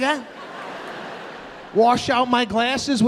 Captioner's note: audience laughing